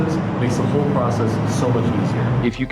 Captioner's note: none